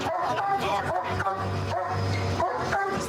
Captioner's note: barking